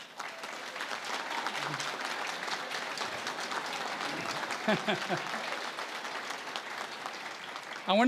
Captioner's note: applause